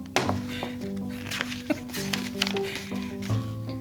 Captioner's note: laughs